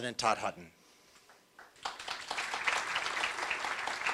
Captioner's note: applause